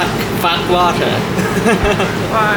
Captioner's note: laugh